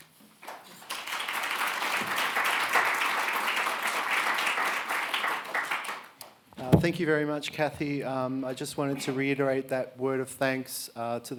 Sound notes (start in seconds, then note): 0.5 audience applauding